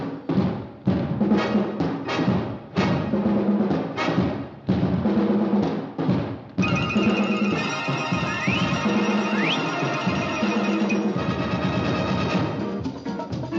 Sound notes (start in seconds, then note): 8.4 sharp whistle